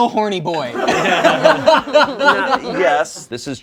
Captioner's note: laughs